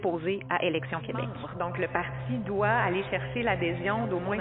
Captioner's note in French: voix en écho